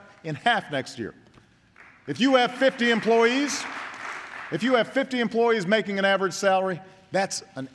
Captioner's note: applause